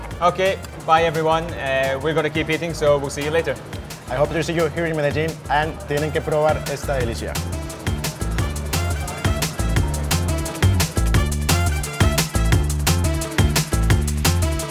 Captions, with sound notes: - Okay, bye, everyone. We're gonna keep eating, so we'll see you later. - I hope to see you here in Medellin, and (speaking in foreign language). (lively Latin music)